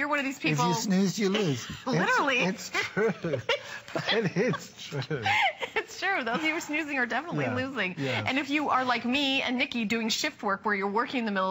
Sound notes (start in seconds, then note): 2.4 laughter